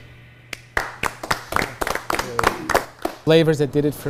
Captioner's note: applause